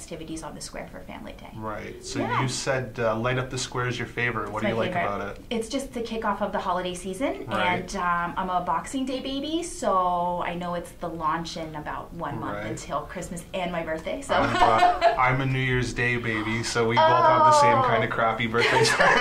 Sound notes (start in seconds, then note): 14.3 laughs